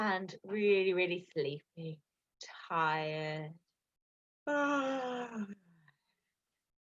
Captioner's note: yawns